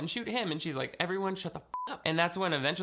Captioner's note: beeping